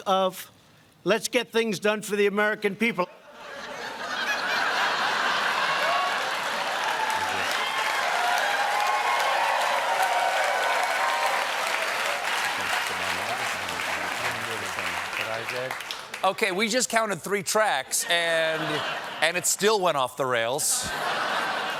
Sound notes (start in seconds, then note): 3.2 laughter; 3.4 applause; 9.7 cheers; 20.8 laughter